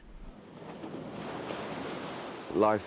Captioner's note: water waves crashing